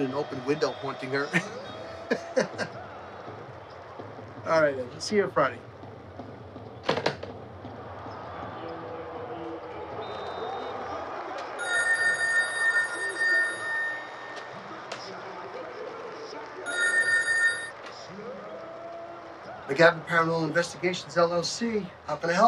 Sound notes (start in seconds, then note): 1.9 chuckles; 8.6 crowd cheering; 10.0 whistle blows; 11.6 phone rings